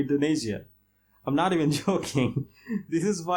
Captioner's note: laughs